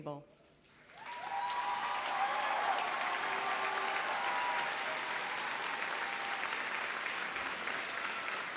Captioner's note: applause